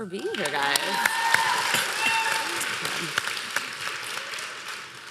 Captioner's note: applause